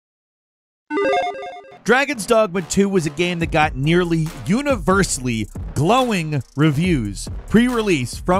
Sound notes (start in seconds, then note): 0.9 electronic chiming